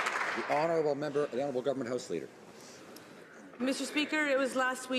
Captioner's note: some Applause